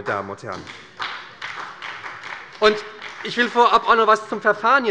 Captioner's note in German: Beifall bei der SPD